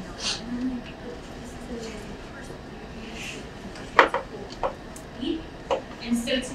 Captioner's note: speaking away from mic